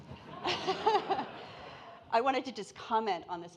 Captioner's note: audience laughing